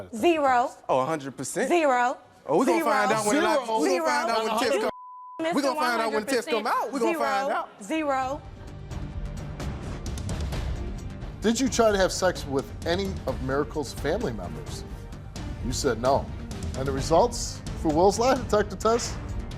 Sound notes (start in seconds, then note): 4.7 beep; 8.2 dramatic music